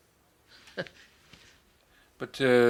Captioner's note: laughs